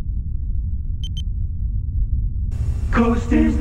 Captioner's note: beeping